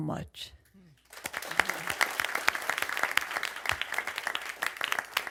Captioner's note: crowd applauds